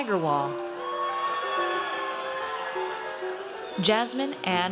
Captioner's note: audience cheers